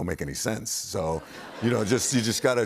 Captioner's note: laughter